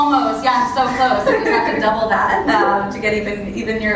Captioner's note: laugh